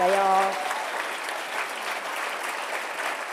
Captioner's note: applause